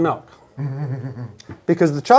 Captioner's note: chuckles